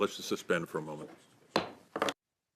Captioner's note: speaking French